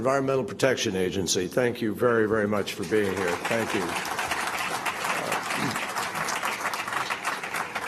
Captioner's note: applause